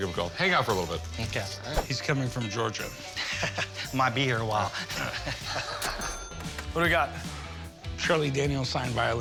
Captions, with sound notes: Hang on for a little bit. - Okay. - He's coming from Georgia. - [chuckles] Might be here a while. - What do we got? - Charlie Daniels signed violin.